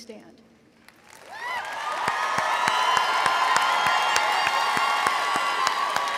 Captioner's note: audience applauding and cheering